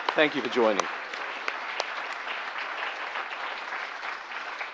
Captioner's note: applause